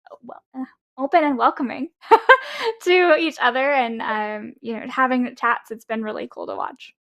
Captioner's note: laughs